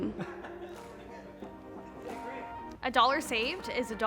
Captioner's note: laughter